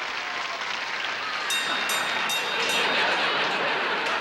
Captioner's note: bell rings